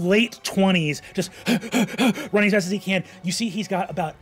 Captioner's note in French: haletant